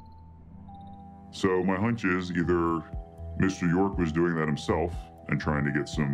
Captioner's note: distorted voice